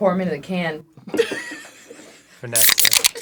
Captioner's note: cracks up